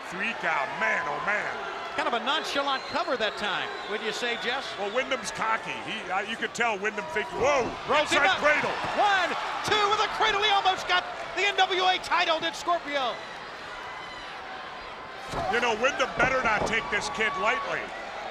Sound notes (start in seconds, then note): 7.4 overlapping chatter